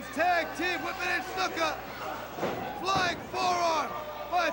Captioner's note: crowd chatter